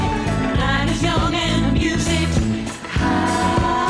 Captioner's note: none